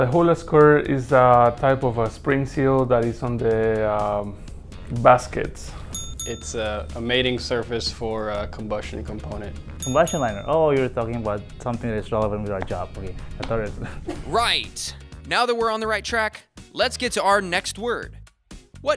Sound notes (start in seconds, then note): 5.8 ding ding; 9.8 ding ding; 13.7 laughing